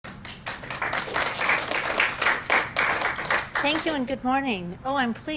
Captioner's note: clapping